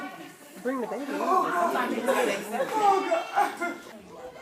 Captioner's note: crying